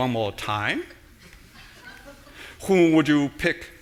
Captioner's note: audience laughing